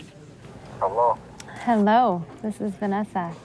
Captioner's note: on phone